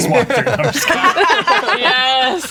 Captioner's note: players laughing